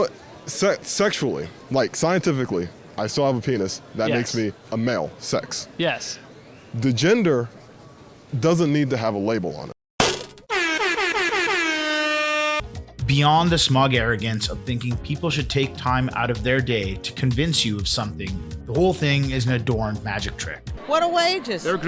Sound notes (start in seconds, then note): 10.5 airhorn